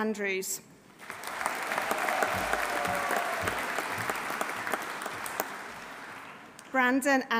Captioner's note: audience applauding; audience cheering